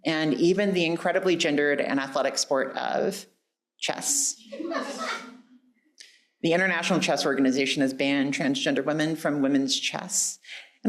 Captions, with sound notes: And even the incredibly gendered and athletic sport of chess. (audience laughing) The International Chess Organization has banned transgender women from women's chess.